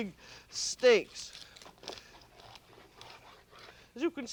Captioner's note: scraping